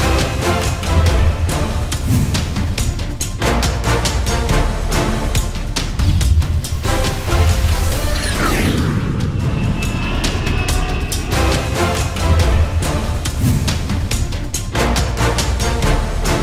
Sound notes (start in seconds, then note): 2.0 logo swooshing; 3.7 dramatic music continues; 8.2 airplane whooshing; 11.5 dramatic music continues